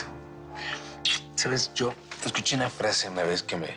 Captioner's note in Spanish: Susurra